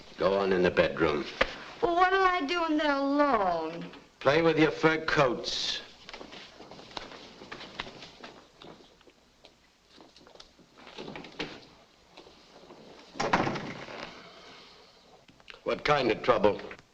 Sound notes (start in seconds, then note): 13.2 door thuds shut